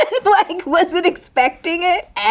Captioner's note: Raven-Symone laughing